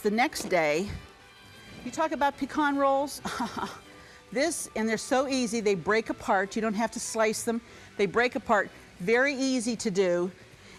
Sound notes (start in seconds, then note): 3.3 laughs